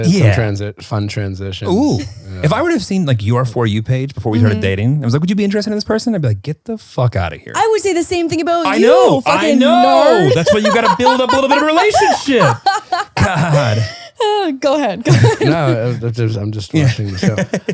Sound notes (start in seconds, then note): 9.9 laughing